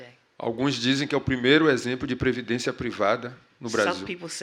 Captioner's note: speaking portuguese